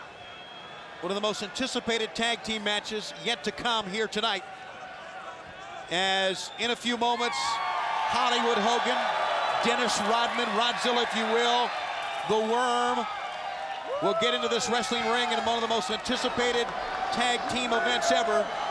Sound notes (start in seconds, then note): 7.5 audience cheers